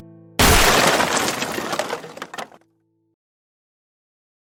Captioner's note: wood clattering